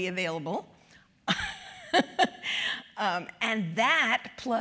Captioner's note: laugh